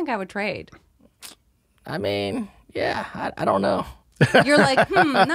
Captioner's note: he sucks his teeth